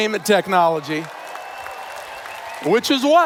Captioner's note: applause